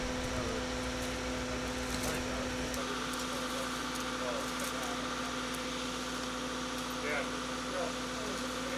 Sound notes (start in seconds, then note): 0.0 engine revving